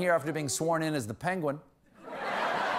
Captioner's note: laughter